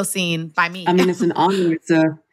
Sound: laughs

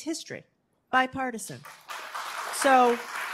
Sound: applause

